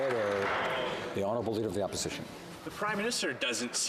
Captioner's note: some Applause